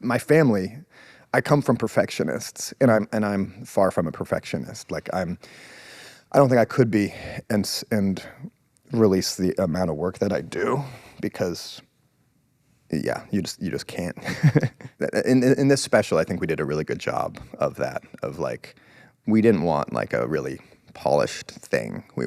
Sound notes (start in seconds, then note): 14.2 laughs